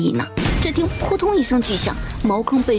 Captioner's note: thud